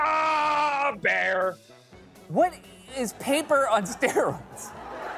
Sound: normal voice; laughter

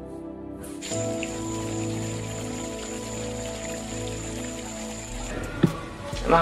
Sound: water falling from fountain

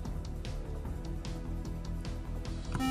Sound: buzzer

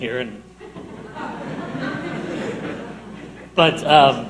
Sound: audience laughing

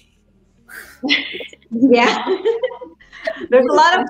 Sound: laughing

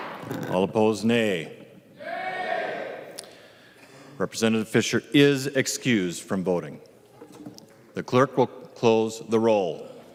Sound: chorus of ayes

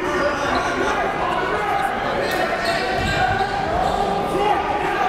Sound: crowds cheering

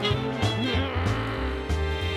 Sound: growls

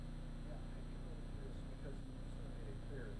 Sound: speaking softly

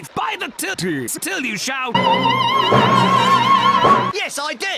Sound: opera scream

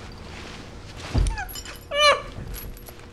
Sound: sobbing

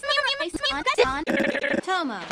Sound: scrambling noises

